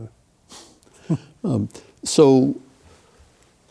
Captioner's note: both chuckle